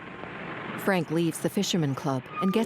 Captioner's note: street din; brakes squealing